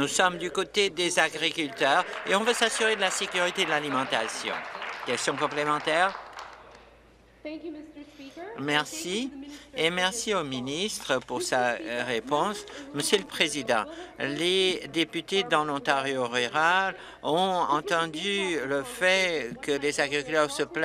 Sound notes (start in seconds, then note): 6.1 applause